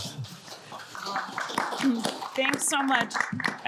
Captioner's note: audience applauds